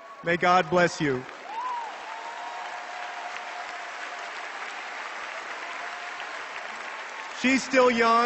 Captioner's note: cheers and applause